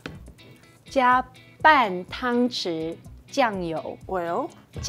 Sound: speaking in mandarin

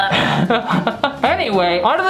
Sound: laughs

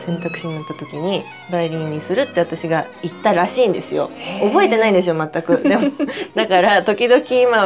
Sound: laughs

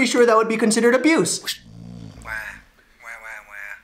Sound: snoring

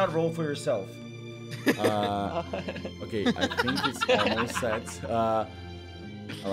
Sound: laughs

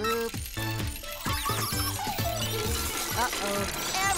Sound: beeping

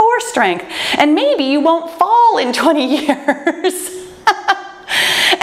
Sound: laughs

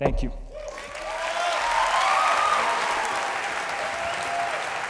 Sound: applause

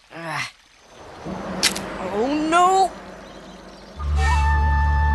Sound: snapping

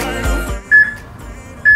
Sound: peep

